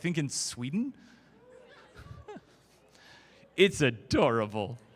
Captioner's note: crowd Laughter